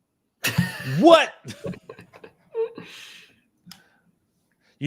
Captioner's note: laughter